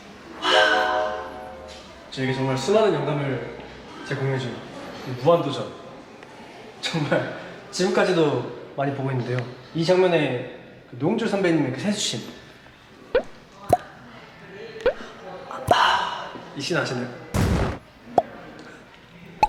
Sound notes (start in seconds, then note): 17.3 bang